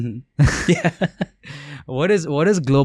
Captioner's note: laughs